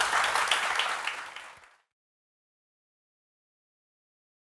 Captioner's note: audience clapping